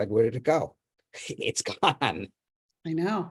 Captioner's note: laughs